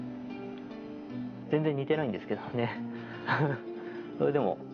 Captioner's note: laughs